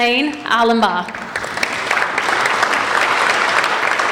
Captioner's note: applauding